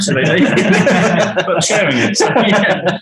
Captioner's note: group laughing